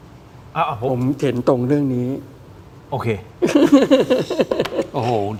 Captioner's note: laughs